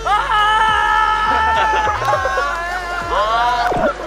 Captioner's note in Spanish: Un grito real